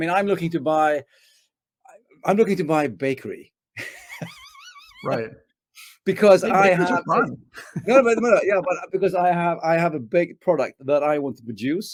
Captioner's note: laughs